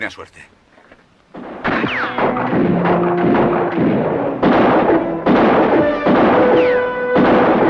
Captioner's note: guns fire; bullets ricochet